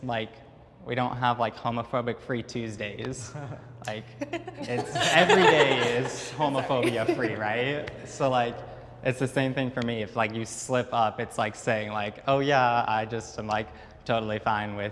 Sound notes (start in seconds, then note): 4.2 laughs; 4.2 giggles; 5.9 all laugh